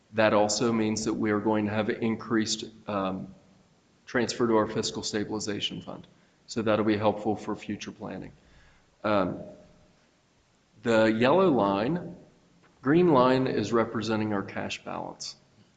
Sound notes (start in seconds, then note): none